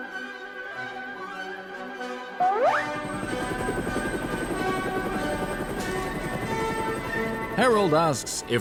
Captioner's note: increasing sound of helicopter, music continues to build